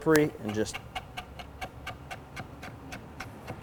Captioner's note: chopping